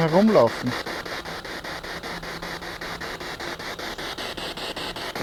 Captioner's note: noise of the spiritbox in the background